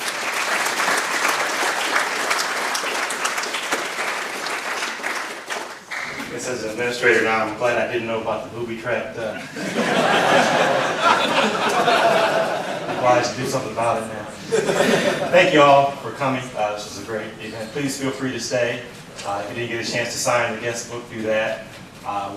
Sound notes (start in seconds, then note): 3.6 applause